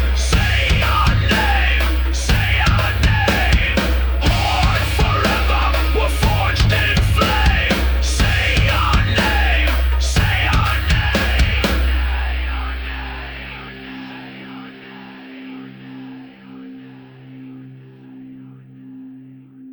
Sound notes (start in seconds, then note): 11.2 echoing